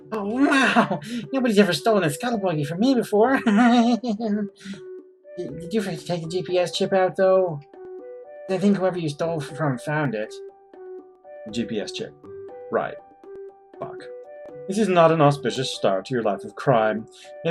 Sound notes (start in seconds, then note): 3.3 laughs